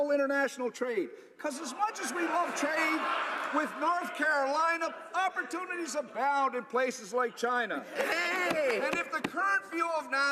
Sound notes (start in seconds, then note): 1.6 laughter